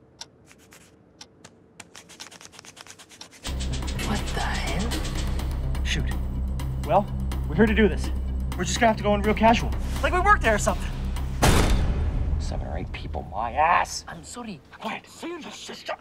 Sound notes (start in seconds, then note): 1.7 pencil erasing